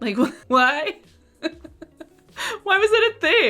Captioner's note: laughs